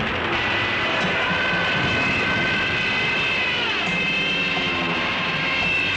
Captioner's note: planes screaming continues